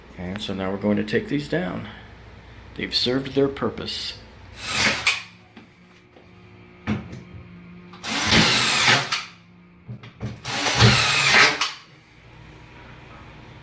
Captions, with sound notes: And, so now we're going to take these down. They've served their purpose. (drill whirs)